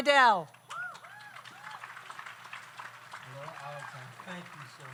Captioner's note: audience applauds; audience cheers